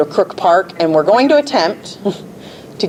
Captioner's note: chuckles